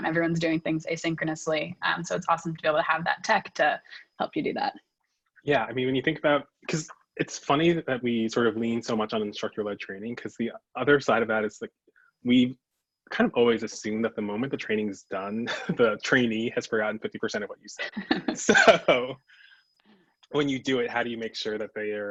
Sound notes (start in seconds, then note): 17.8 both laugh